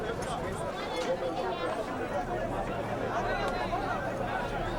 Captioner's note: people conversing